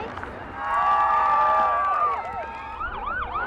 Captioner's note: crowd cheering; sirens wailing